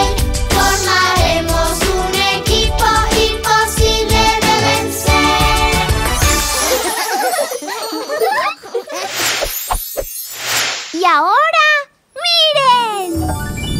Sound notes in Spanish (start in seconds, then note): 6.4 Risas